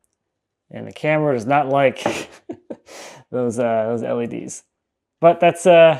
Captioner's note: laughs